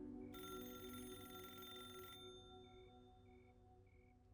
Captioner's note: phone ringing